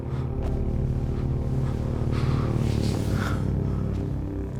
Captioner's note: panting